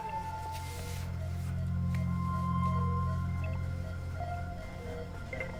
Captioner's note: beeping